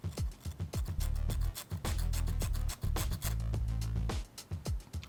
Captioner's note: metal scraping